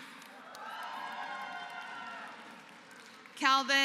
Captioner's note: applause